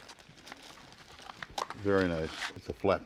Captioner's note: objects clattering